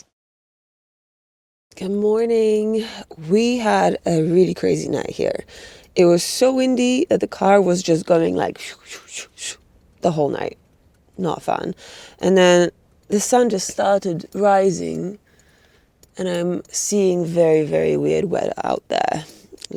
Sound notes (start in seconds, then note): 9.4 mocks wind